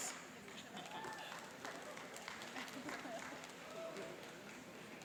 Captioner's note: cheering and applauding